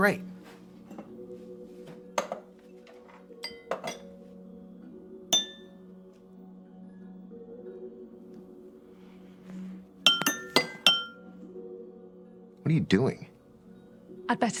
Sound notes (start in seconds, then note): 5.3 glass ringing; 10.0 glasses ringing